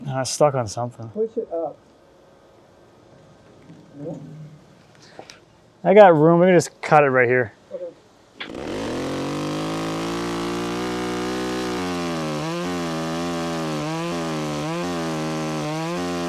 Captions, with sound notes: - Nah, stuck on something. - Push it up. - I got room, let me just cut it right here. (chainsaw buzzing)